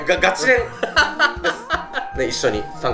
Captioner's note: laughs